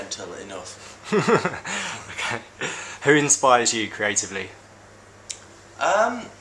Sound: laughs

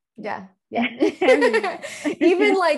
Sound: both laughing

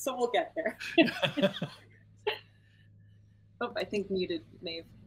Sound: laughing

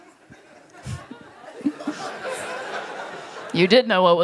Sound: laughter

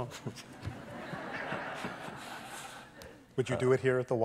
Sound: laughter

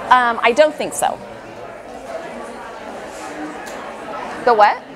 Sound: chatter

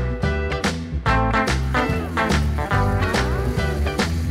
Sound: swing music; water fountain

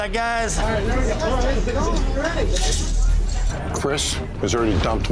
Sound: background talking

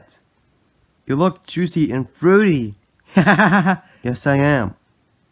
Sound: laughs

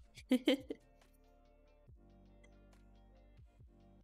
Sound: giggles

